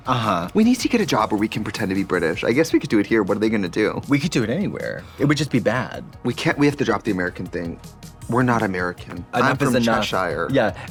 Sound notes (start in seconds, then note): 4.9 Trixie gasps